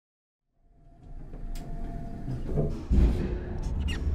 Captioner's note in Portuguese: som de elevador